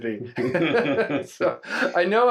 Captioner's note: everyone laughs